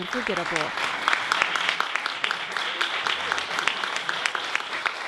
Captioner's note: audience clapping